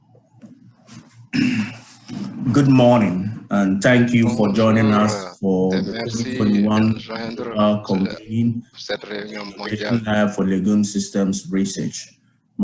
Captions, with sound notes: - Good morning. And thank you for joining us (speaking in foreign language) for legume systems research.